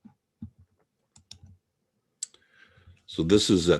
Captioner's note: mouse clicking